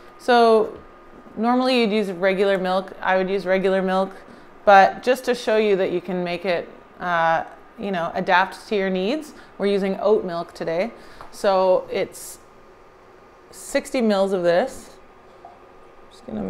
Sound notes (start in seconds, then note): none